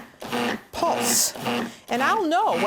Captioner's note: blender pulsating